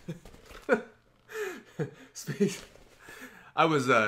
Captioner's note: laughs